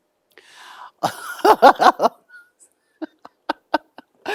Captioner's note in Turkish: kahkaha